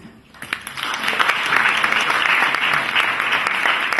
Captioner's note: applause